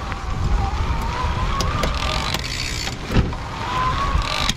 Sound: gears whirring

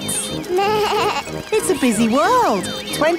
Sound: bleats

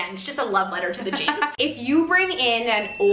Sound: laughs

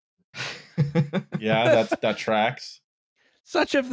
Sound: chuckles

